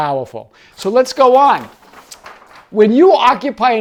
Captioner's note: paper rustling